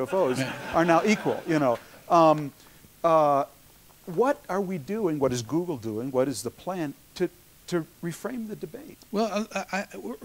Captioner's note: laughter